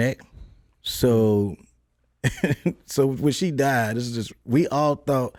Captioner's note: chuckles